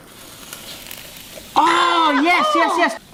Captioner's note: waffles sizzling